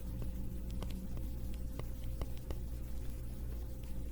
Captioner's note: typing